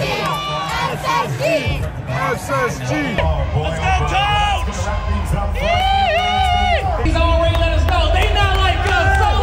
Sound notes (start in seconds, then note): 6.1 screaming